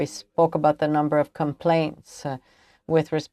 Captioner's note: speaking french